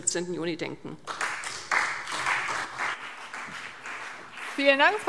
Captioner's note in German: Beifall CDU und BÜNDNIS 90/DIE GRÜNEN